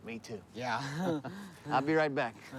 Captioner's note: laughs